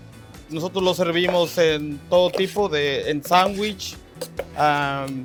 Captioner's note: speaks Spanish